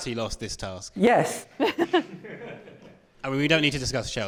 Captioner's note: laughter